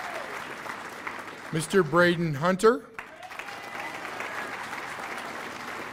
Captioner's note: cheers and applause